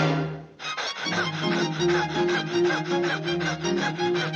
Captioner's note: door slams; Porky panting